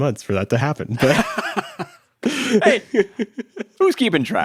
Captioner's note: laughs